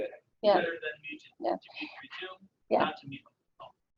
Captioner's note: audio drops; audio drops